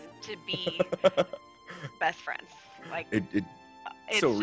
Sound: laugh

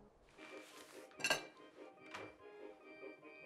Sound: cutlery rattling; upbeat instrumental music

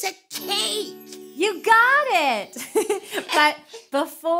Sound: chuckling

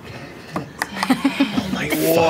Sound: laughter

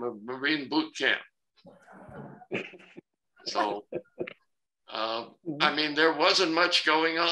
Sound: laughter

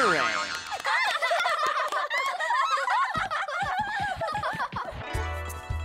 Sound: laughing, clapping

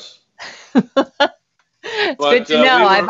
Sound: laughs

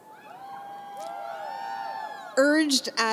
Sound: audience cheering

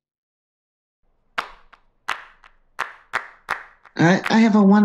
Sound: hands clapping

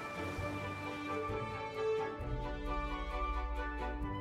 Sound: water splashes

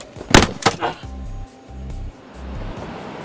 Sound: blow thuds

